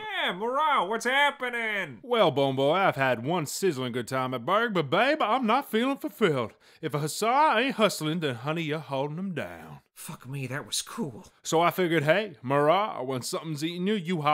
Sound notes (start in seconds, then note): none